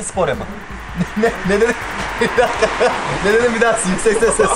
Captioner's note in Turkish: Hahahah!